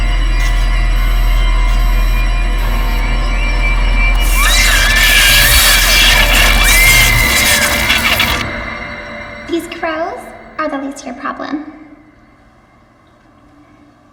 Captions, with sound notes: (dramatic music continues) (electric buzzing) (Anne screaming) - These crows are the least of your problem.